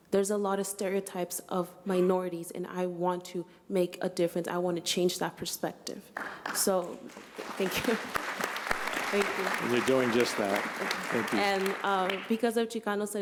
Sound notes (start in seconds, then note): 9.1 applause